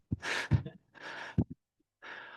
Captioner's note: laughs